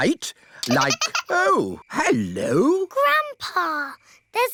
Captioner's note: giggling